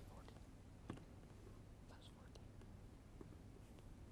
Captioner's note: whispering